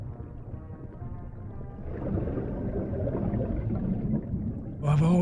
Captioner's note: bubbles burbling